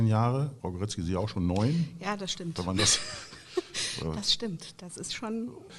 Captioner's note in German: lacht